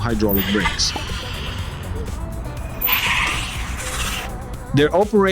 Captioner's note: braking Noise